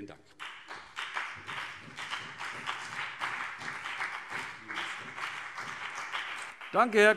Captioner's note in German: Beifall CDU und BÜNDNIS 90/DIE GRÜNEN